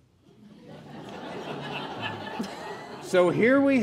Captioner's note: laughing